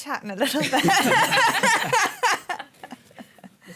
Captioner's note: laughter